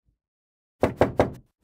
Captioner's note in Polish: pukanie do drzwi